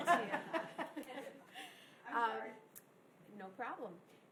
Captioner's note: laughing